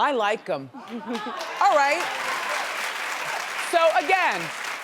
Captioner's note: audience claps